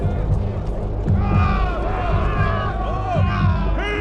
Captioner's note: shouting